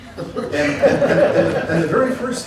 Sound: laughter

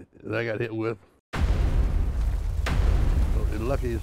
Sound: bombs booming

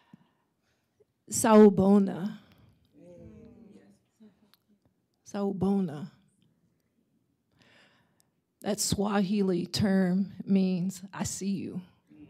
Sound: swahili

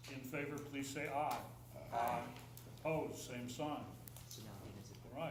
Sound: chorus of ayes

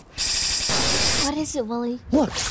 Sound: crash

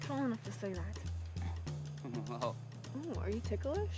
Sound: laughs

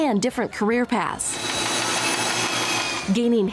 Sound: machine whirring

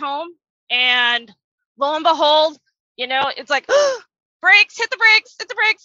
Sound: gasps

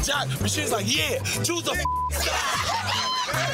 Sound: beep; group laughing

